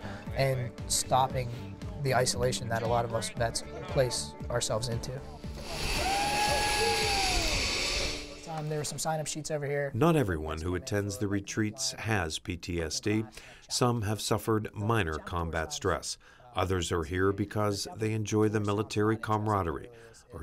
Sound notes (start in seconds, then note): 6.7 line whizzing